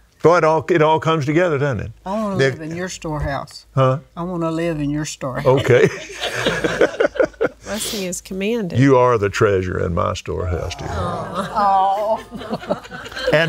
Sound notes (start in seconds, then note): 7.7 laughs